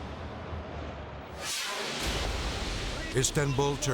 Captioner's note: air whooshes